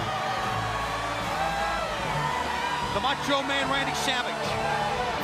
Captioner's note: crowd cheering